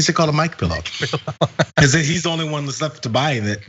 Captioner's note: laugh